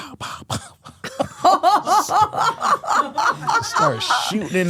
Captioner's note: laughs